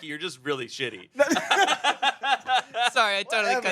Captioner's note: everyone laughs